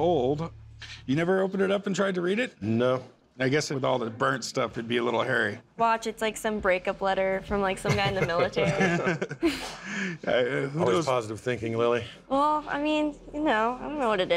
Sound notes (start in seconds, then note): 7.8 chuckling